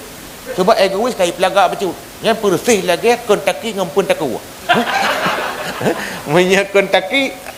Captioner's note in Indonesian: tertawa